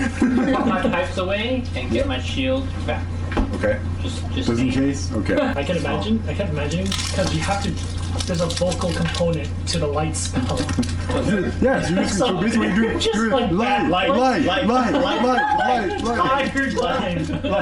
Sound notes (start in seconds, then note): 15.1 laughter